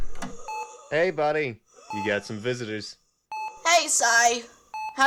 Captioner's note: heart monitor beeps